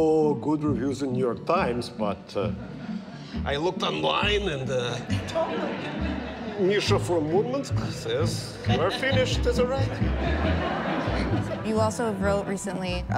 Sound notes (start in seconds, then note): 10.4 audience laughing